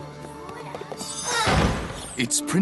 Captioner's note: slam